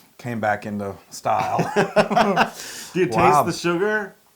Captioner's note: laugh